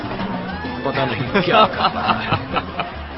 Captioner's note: laughing